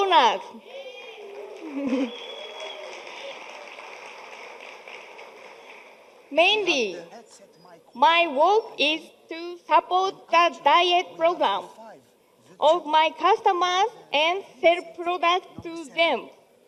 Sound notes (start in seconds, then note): 0.8 audience applauding